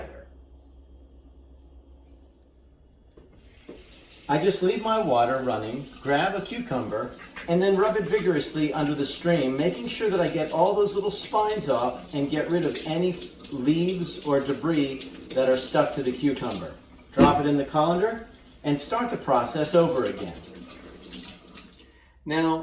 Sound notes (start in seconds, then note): 0.1 the sound of water running; 8.3 squeaks while it is getting cleaned; 17.2 cucumber hits with a thud